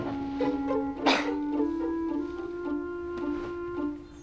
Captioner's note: coughs